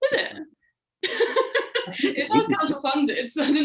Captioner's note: laughing